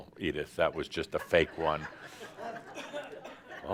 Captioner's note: laughter